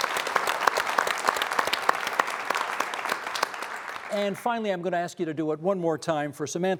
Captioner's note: applause